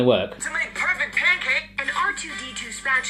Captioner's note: voiceover